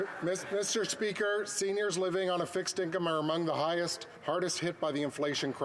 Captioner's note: some Applause